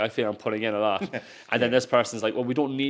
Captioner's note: host chuckles